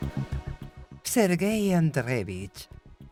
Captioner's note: speaking in foreign language